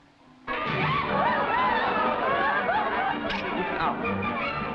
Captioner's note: partygoers shouting and yelling; man speaking foreign language